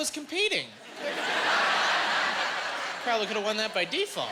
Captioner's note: laughing